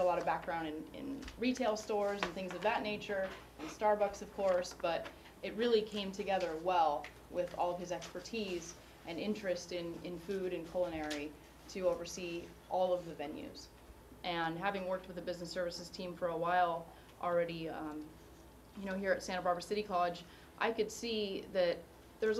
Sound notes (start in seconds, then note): none